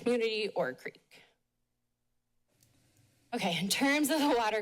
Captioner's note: pause